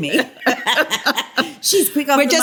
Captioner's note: laughter